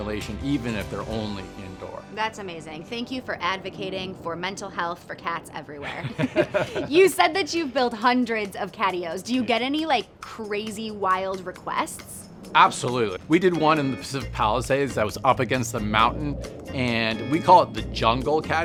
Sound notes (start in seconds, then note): 5.8 laughs